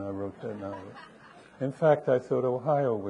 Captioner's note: audience laughing